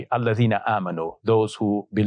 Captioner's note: speaking Arabic